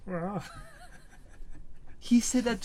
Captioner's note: laughs